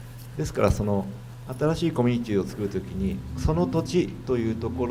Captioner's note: speaking foreign language